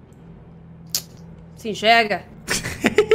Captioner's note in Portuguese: tsc